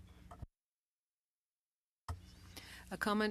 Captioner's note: speaking French